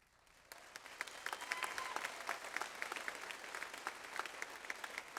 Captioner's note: audience applauds